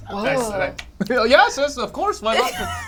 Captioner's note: snaps fingers